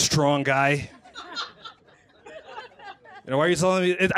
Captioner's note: laughter